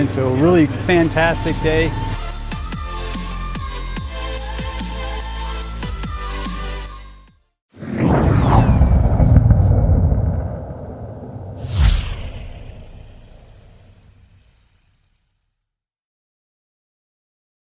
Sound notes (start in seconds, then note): 2.7 techno music; 7.7 rocket launching